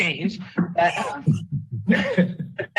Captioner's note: members laughing